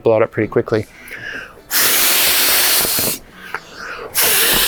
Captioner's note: air whooshing